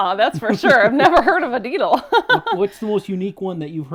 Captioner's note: laughs